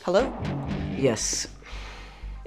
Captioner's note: sighs